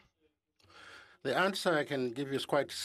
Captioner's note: speaking French